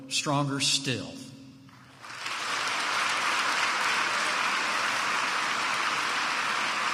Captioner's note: applause